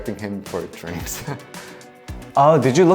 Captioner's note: laughing